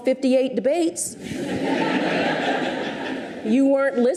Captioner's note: audience laughs